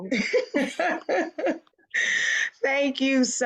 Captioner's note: laughs